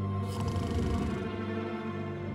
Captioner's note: snoring; suspenseful music